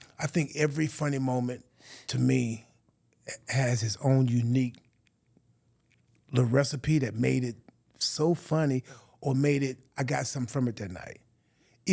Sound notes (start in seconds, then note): none